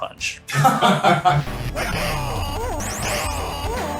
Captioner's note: laughter